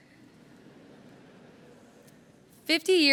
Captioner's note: laughter